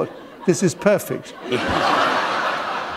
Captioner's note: laughter